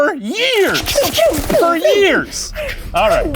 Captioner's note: gunshots ricocheting